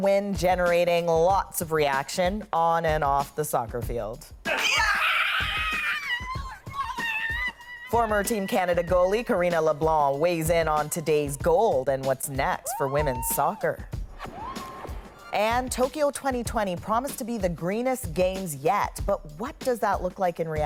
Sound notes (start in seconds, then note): 7.0 screaming